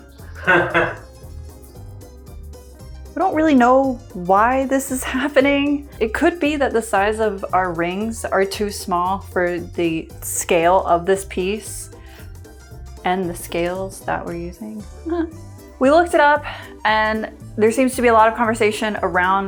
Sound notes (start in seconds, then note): 15.0 chuckles